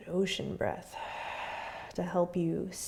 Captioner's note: exhaling